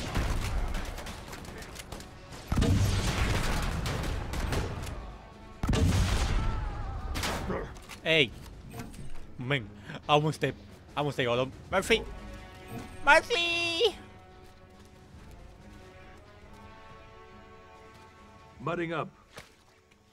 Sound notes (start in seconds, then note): 0.0 guns firing; 5.6 grenade exploding